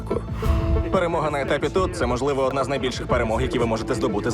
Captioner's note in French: en anglais